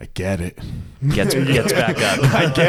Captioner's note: laughs